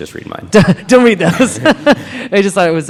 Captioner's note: laughs